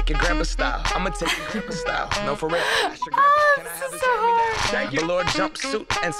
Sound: chuckling

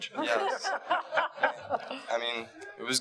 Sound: audience laughing

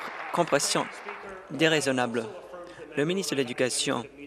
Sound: applause

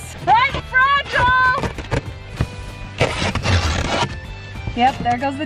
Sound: tape ripping

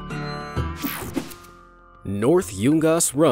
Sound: air whooshing

